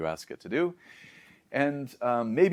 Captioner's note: inhales